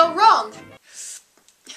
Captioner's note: inhale